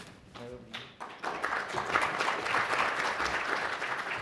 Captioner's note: applause